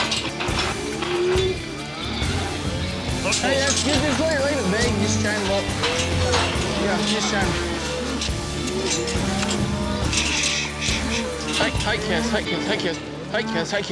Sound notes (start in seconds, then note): 0.2 cattle mooing; 4.8 gates clanking; 7.9 cows mooing